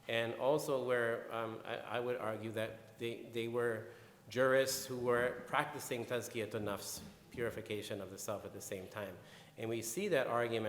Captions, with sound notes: And also where I would argue that they, they were jurists who were practicing (speaking in foreign language) purification of the self at the same time.